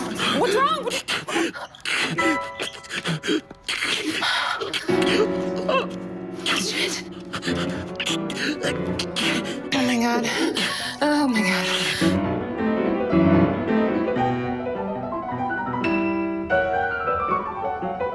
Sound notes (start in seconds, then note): 1.6 gasping